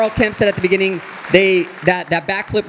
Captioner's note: audience applauding